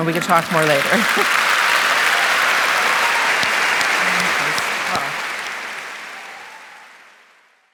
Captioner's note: applause